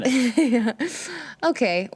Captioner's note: chuckles